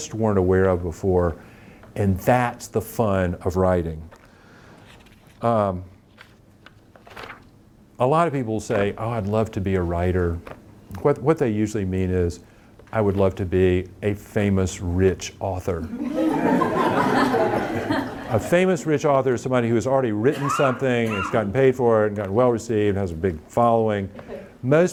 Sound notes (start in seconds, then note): 15.8 audience laughing